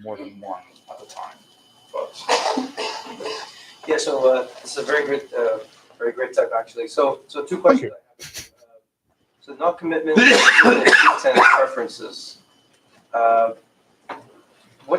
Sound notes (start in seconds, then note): 10.1 coughing